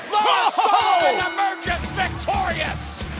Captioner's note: bell ringing